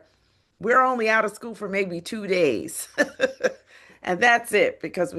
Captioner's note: laughs